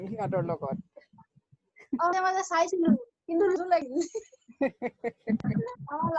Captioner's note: laughs